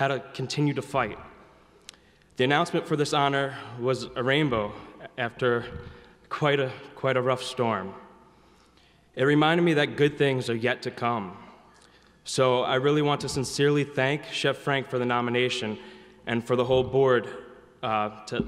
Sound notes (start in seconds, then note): none